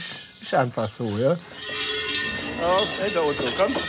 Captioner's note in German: Kuhglocken, unverständliche Rufe